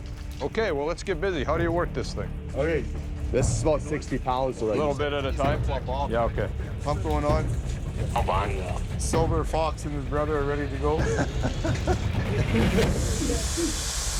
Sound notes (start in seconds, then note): 7.5 man on radio; 10.8 chuckles; 11.4 air hissing